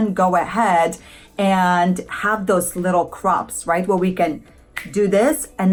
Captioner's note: snaps